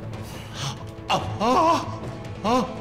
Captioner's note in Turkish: İnleme sesi